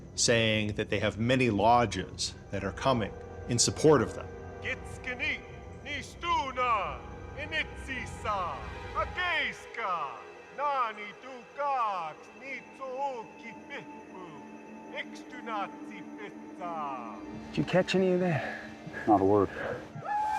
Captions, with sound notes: SAYING THAT THEY HAVE MANY LODGES THAT ARE COMING IN SUPPORT OF THEM. [SPEAKING GROS VENTRE LANGUAGE] [SPEAKING GROS VENTRE LANGUAGE] - DID YOU CATCH ANY OF THAT? - NOT A WORD.